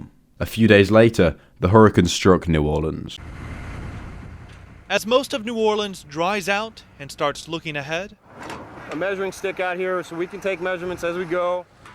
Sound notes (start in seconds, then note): 3.1 vehicle moving